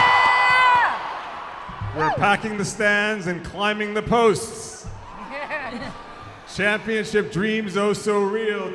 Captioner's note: cheers